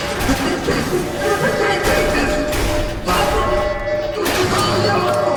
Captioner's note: alarm buzzing; distorted voices speaking